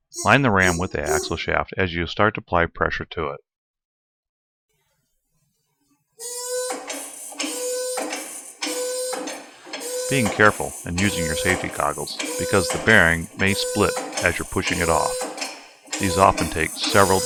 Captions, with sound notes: Align the ramp with the axle shaft as you start to apply pressure to it. [Creaking noise from press] Being careful and using your safety goggles because the bearing may split as you're pushing it off. These often take several